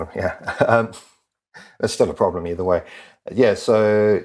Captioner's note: laugh